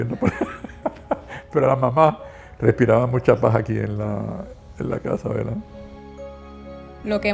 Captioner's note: laughs; laughs